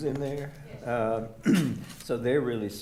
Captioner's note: clears throat